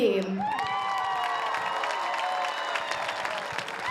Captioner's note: audience cheers